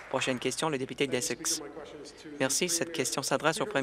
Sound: applause

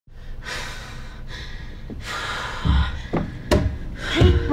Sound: breathing sounds

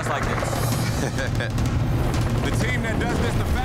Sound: laughing

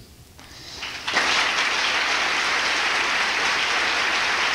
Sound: applause

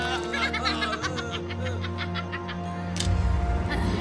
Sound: demon giggling

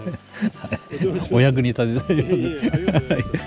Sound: laughs

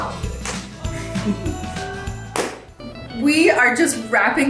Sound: upbeat music; mom chuckles

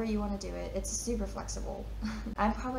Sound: chuckles

